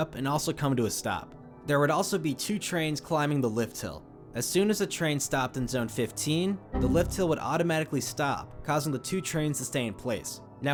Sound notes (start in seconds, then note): 6.7 Windows error sound